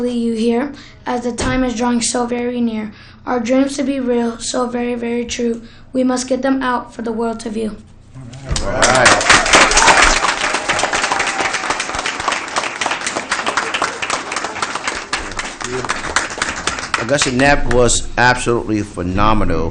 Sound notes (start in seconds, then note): 8.8 applause